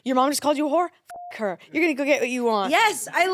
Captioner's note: beep